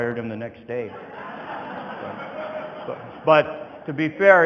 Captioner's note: audience laughing